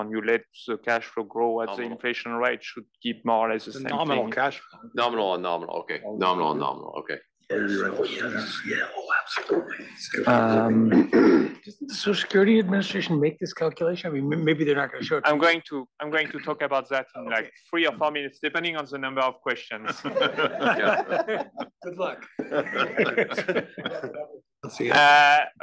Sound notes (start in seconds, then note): 19.7 laugh